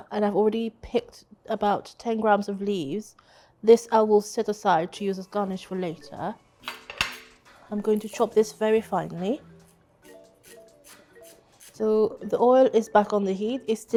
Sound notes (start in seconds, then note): 6.6 utensils clattering; 10.0 coriander crunching; 10.0 soft upbeat music